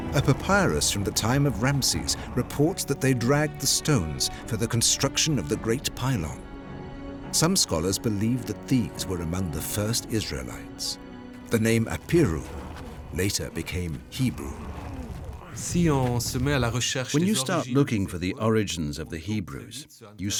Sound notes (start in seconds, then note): 15.7 speaking French